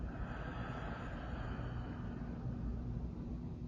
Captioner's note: exhales